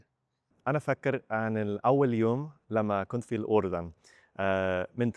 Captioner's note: in Egyptian Arabic